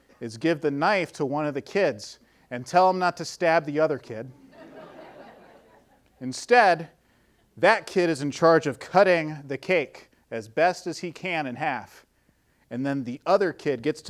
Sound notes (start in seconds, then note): 4.4 audience laughing